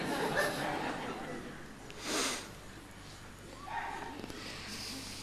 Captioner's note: laughter